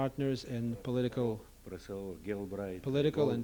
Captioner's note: non-english speech